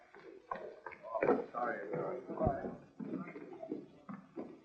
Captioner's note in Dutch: lachen; geklets